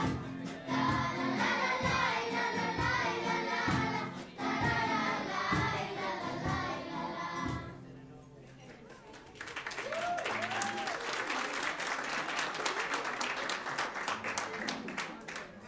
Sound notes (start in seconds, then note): 8.6 audience applauds; 9.7 audience cheers